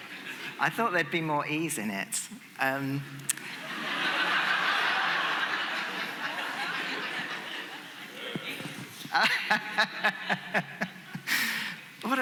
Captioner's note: laughter